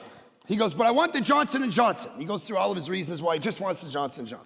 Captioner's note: none